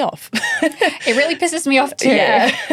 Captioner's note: laughing